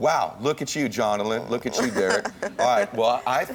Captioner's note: laughs